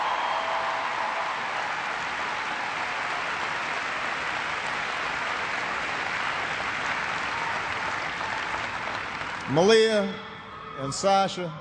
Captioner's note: cheers and applause